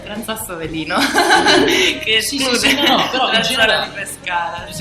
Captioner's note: laugh